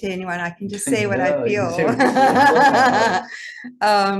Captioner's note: laughs